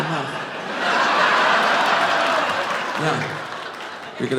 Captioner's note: audience laughing